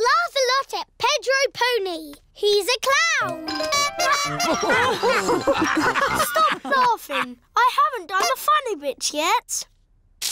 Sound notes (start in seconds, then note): 3.5 toots horn; 3.8 all laugh